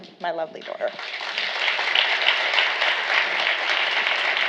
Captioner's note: applause